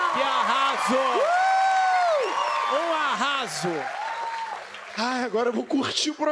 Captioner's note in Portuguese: aplausos